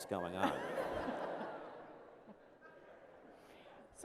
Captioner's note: laughter